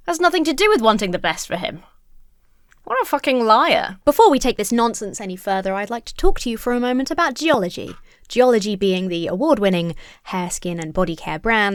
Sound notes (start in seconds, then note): none